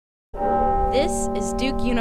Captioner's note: church bell ringing